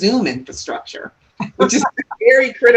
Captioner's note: laughs